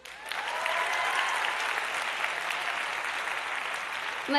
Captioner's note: applause